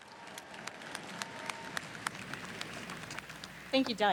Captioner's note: audience applauds